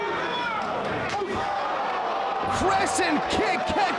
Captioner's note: audience gasping